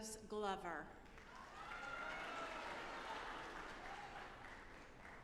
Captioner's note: audience applauding